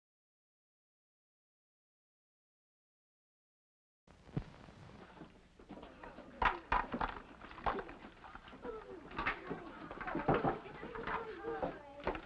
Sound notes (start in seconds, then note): 6.4 ice clatters & water pours; 9.7 sound of girls' voices